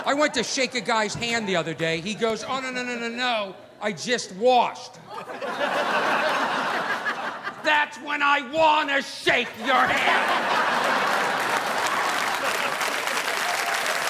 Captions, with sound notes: I went to shake a guy's hand the other day. He goes, "Oh no-no-no-no-no-no. I just washed." (audience laughing) That's when I want to shake your hand! (audience applauding)